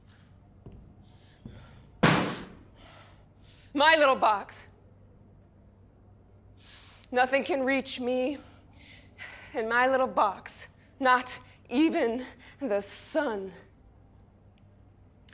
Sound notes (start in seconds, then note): 2.0 banging